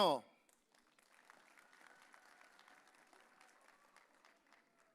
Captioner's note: audience cheering